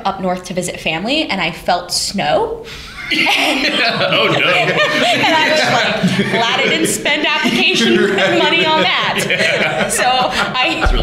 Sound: laughter

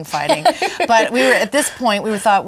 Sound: laughs

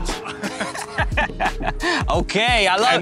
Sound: laughter

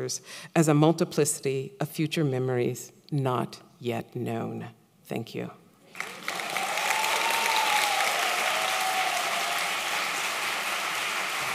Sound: applause

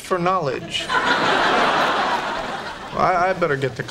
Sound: background laughter

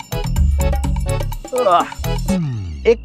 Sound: sighs

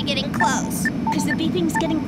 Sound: beeping

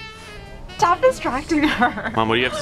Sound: laughter

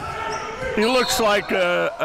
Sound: whistle blows

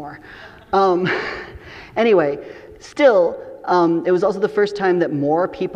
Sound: chuckles

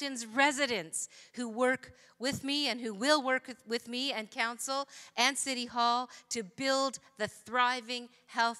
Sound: none

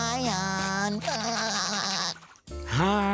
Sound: laughs

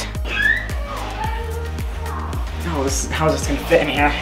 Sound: girls yell in distance

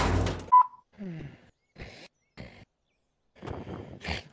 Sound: choking noises; snoring

